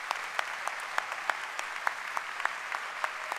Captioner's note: applause